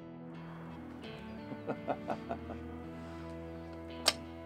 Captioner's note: childish giggle